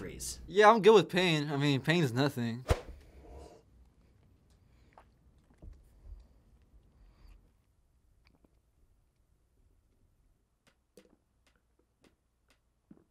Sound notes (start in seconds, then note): 2.6 silence; 8.7 gulping